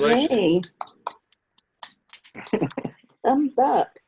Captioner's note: applauds